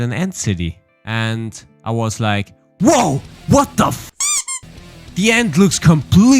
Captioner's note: squeak